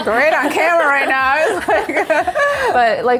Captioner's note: everyone laughs